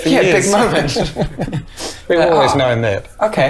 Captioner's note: laughs